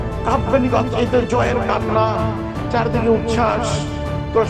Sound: none

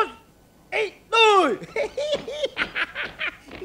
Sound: laughing

